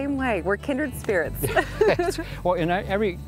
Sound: both laughing

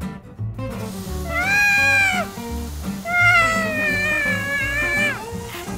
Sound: screams

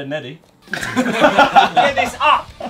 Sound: group laughing

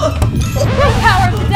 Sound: record skips

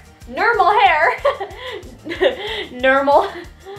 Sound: laughing

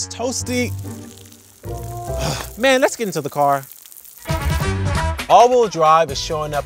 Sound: starts raining

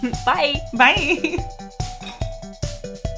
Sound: giggles

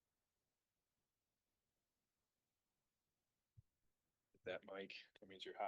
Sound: silence

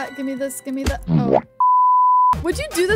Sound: deep squishing sound

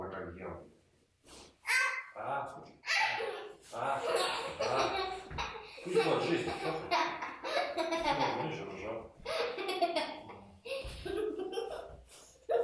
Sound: baby laughs and screams

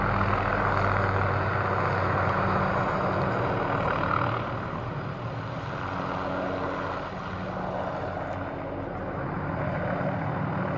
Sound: distant helicopter

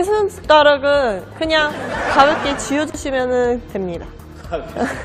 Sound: laughing

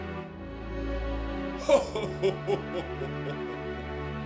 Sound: laughter

